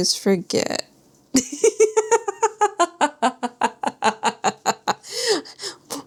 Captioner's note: laughs